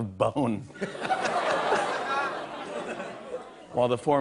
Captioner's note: laughter